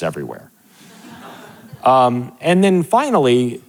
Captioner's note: audience laughing